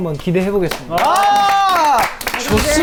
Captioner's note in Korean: 박수 함성